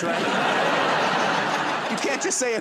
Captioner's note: laughter